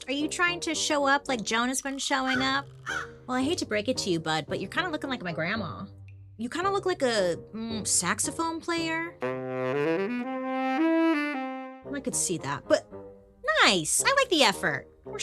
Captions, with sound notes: Are you trying to show up like Joan has been showing up? (crows cawing) Well, I hate to break it to you, bud, but you're kind of looking like my grandma. You kind of look like a saxophone player. (upbeat saxophone music) I could see that, but nice. I like the effort.